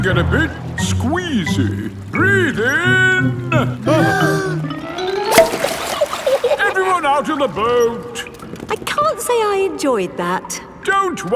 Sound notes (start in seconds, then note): 3.6 breathing in